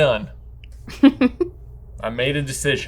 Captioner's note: laughing